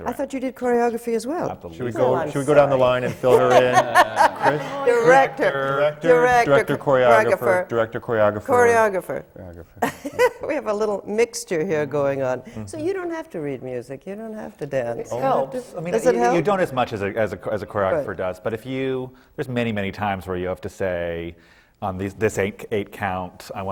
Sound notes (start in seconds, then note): 3.0 laughter; 9.8 laughs